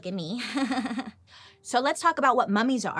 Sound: chuckles sarcastically

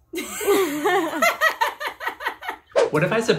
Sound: laughs

